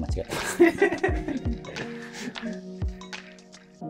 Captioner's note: laughing